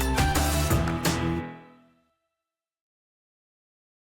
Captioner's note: music stops